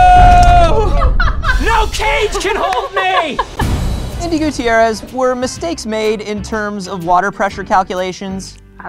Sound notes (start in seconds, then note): 0.0 screaming